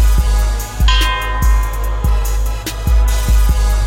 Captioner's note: ding